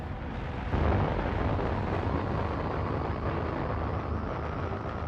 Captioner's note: rocket engines roaring